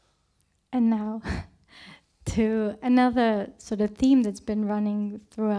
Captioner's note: chuckles